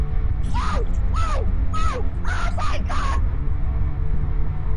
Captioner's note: screams